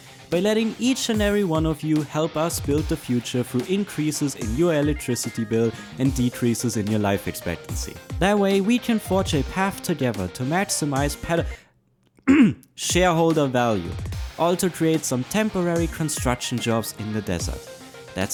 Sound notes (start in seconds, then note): 12.2 clears throat